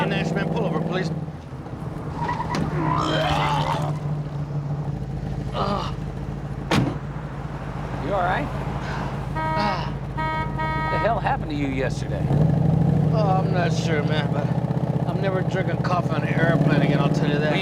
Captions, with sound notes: Hey, Nash, man, pull over, please. (vomiting) (groaning) You all right? (horn honking) What the hell happened to you yesterday? Oh, I'm not sure, man, but... I'm never drinking coffee on an airplane again,